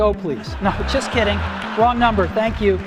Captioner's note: crowd laughs